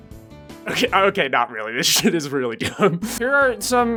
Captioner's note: cracking up